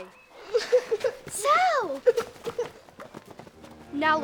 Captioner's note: Sal crying